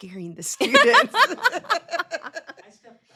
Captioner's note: everyone laughs